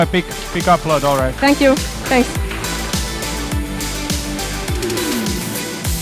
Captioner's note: audience applauds